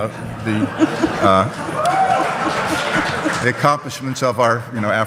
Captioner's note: audience cheers